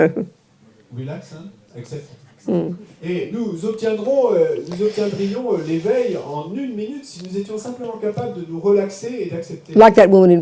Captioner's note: audience member speaks in French